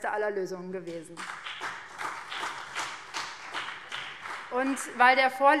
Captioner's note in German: Beifall BÜNDNIS 90/DIE GRÜNEN und vereinzelt CDU